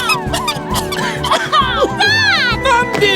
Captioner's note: Mandy Gasps; all Coughing